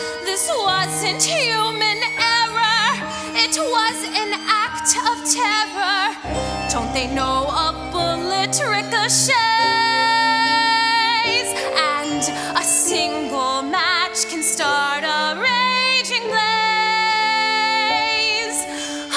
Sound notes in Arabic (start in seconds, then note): none